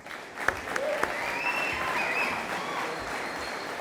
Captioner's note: audience applauding